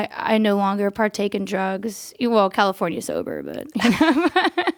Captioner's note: laughs